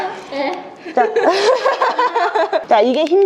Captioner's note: laughter